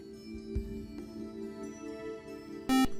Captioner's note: buzzer